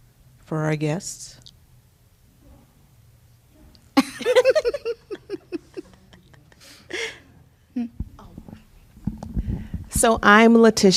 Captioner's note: laughter